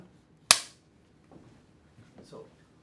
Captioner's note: clanking